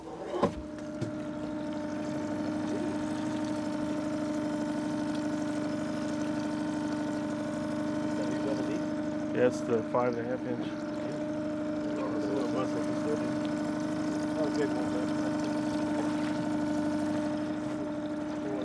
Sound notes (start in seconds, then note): 0.2 trolling motor humming; 11.7 trolling motor humming; 13.1 fish splashing; 18.4 trolling motor humming